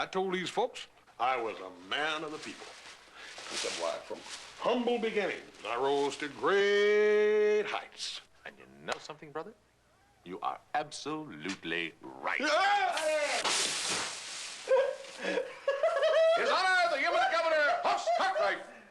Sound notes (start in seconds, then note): 12.2 yells; 14.6 laughing